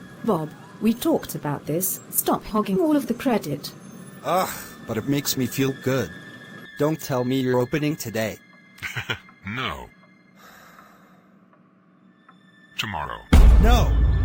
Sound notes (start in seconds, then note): 4.2 groan; 8.8 chuckles